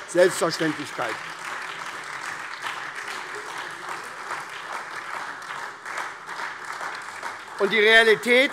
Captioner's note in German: Beifall SPD